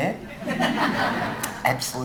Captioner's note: audience laughing